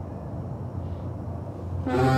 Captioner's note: humming